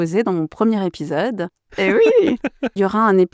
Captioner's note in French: Rires